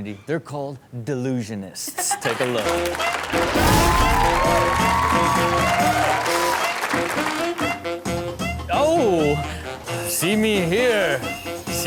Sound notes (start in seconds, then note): 4.1 crowd cheers; 4.1 upbeat music